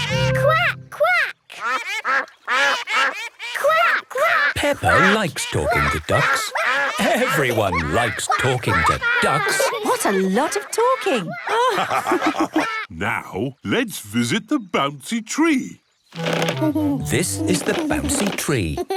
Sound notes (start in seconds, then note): 1.6 quacking; 11.8 all laugh